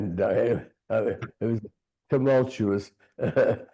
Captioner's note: chuckling